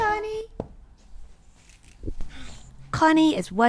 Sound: whispering

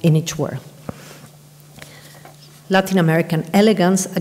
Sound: papers rustle

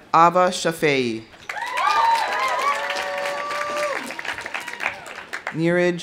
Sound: audience applauding; audience cheering

